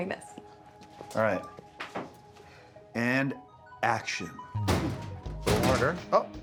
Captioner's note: cabinet rattling